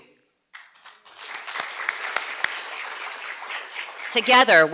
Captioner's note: audience clapping